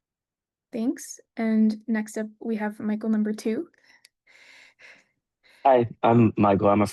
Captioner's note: laughs